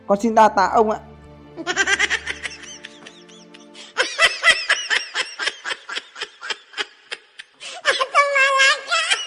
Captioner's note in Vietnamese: Tiếng cười